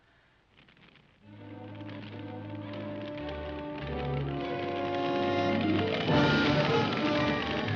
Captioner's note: fire crackling; dramatic music